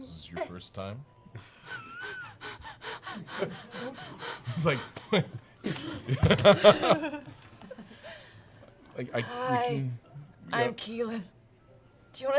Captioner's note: hyperventilating